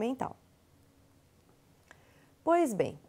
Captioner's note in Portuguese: silêncio